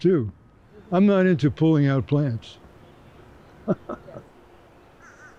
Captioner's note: chuckles